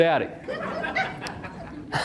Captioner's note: 2-3 audience members laugh; uncomfortable chuckle